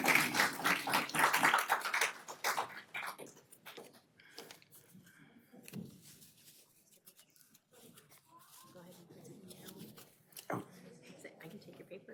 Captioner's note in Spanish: aplausos